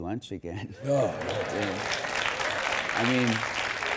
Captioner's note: audience applauding